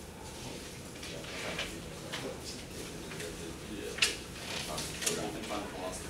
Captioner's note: students chattering quietly